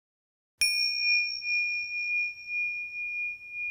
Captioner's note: bell dinging